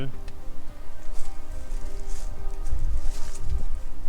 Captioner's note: rustling leaves